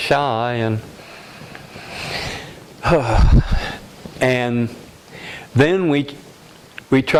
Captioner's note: sigh